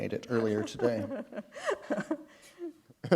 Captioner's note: chuckle